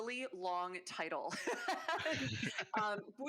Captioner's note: laughing